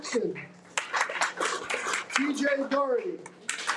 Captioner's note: audience applauding